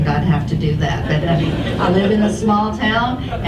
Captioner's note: audience laughs